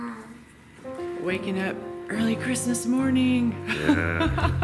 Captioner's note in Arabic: يضحك